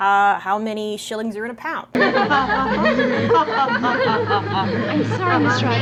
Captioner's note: laughter